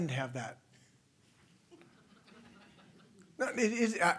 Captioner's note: laughter